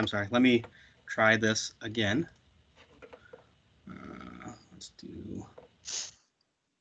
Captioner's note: murmurs